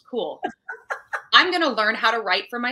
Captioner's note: laughing